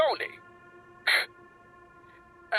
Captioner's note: scoffs